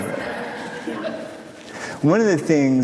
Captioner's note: audience laughing